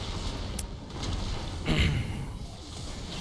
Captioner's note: cough